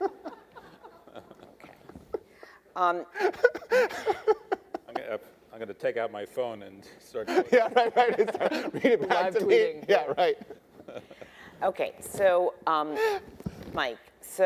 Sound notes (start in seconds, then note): 0.0 attendees laughing; 11.2 laughs